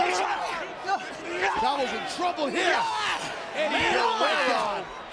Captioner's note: Chavo screaming